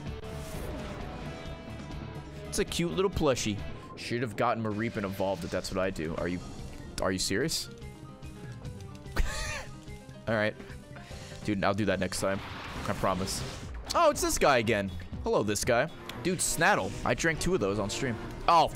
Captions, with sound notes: It's a cute little plushie. Should have gotten Mareep and evolved it, that's what I do. Are you, are you serious? (laughs) All right. Dude, I'll do that next time, I promise. Oh it's this guy again. Hello this guy. Dude, Snattle? I drank two of those on stream.